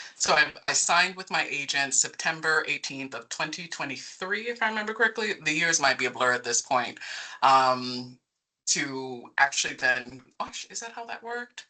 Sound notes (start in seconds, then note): none